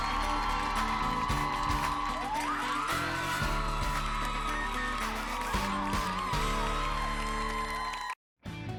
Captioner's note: cheers and applause